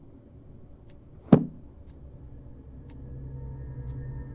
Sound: thud

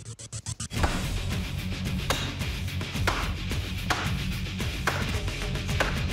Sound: banging

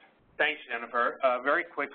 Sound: voiceover

